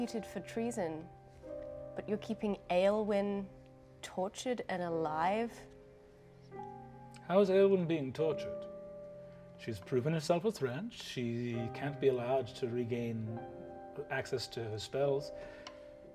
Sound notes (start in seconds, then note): none